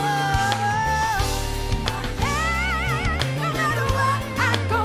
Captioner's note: vocalizes